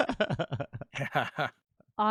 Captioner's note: laughing